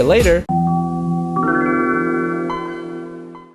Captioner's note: Windows 95 startup sound